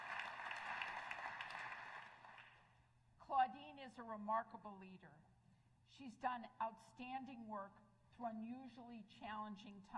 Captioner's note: applause